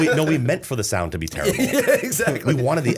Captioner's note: laughter